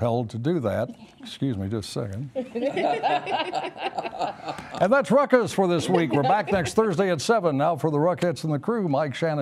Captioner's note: laughter